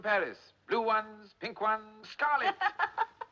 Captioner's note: Risos